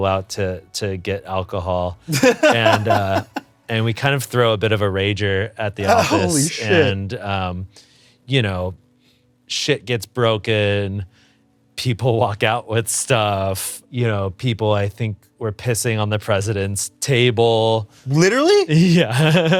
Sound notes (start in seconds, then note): 2.1 laughs